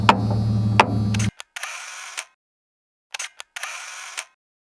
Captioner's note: camera shutter sounds